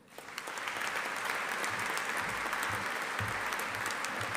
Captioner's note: audience applauding